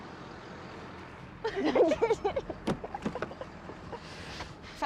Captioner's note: laughter